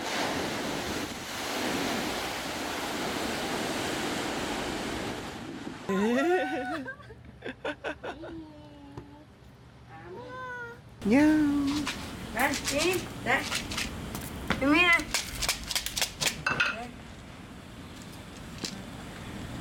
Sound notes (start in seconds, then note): 5.8 haha